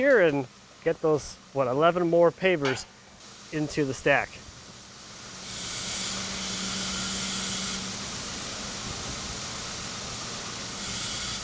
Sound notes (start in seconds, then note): 7.0 telehandler engine droning